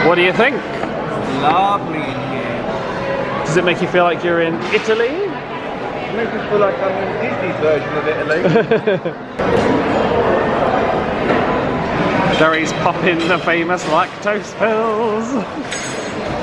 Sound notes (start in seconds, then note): 8.4 laughing; 9.8 cutlery clattering